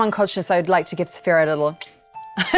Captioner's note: clicks; chuckling